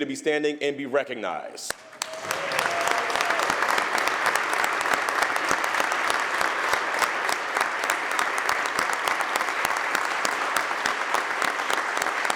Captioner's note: applause